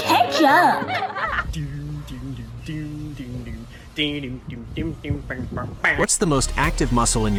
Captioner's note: children laughing; man humming tune in time with dog walking